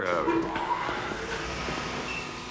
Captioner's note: elevator running